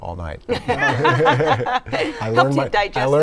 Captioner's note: laughter